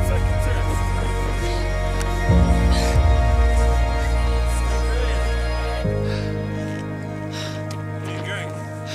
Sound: heavy breathing

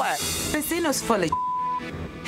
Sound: beep

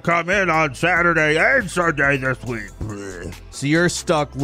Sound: groans

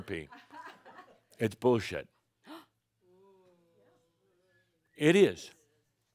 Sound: gasps

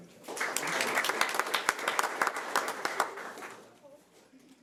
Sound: audience applauding

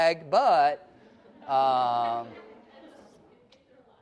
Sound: laughing

